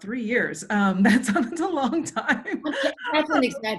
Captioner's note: laughs